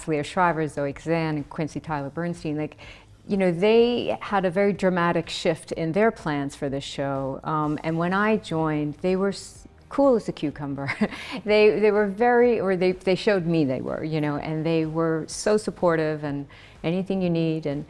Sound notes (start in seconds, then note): 11.2 laughs